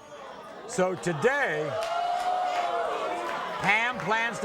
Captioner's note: audience groans